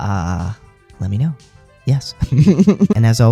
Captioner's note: laugh